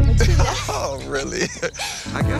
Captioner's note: laughing